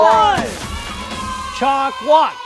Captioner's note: cheering